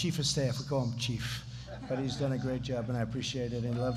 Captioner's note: laughter